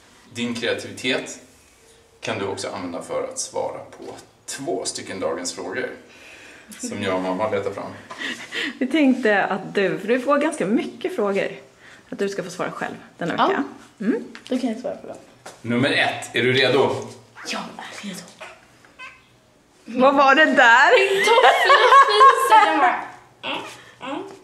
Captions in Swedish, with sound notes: Din kreativitet kan du också använda för att svara på två stycken Dagens Frågor som jag och mamma har letat fram. Vi tänkte att du, för du får ganska mycket frågor, att du ska få svara själv den här veckan. Ja, då kan jag svara på dem. - Nummer 1. Är du redo? - Jag är redo. (Pruttljud) - Vad var det där? - Min toffla fiser! Den bara...